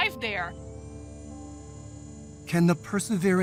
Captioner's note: whirring